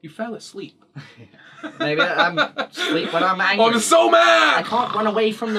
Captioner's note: snores